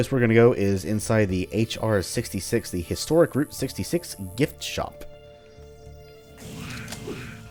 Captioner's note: Bugdogs snarl